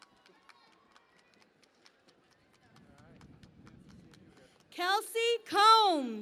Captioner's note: cheering and Applause